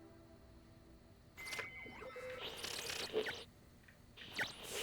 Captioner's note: random beeping